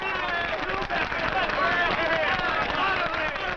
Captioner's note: crowd cheers for Bottomley